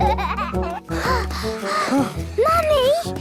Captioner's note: children giggling; panting